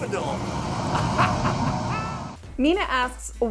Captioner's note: laughing